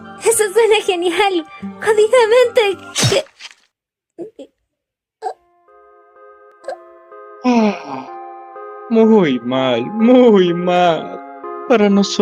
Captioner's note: sound of a blade